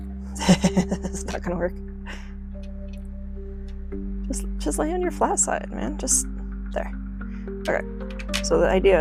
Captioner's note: laughs